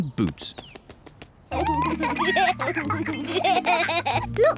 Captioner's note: both giggle